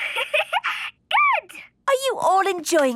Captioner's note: giggling